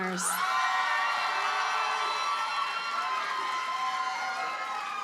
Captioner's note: audience cheers and applauds